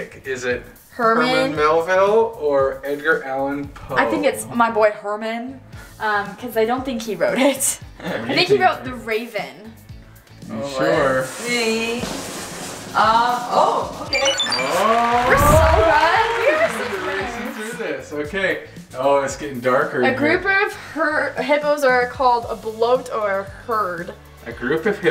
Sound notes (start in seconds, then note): 14.1 high-pitched beeps